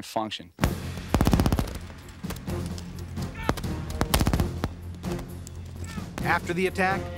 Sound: gun shots

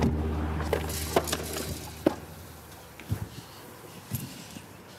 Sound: ball clunking

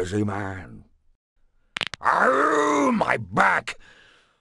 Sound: spine cracks

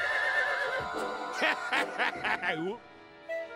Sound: horse neighs; laughs maniacally

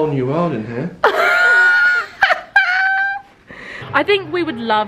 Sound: laughs

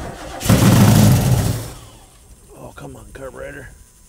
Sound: engine straining

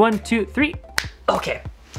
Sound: snaps fingers

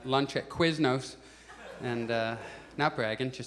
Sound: audience laughs

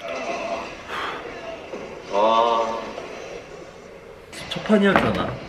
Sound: making him sigh

